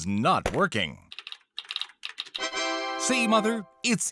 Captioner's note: Windows startup sound; typing